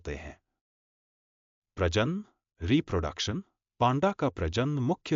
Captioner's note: audio Break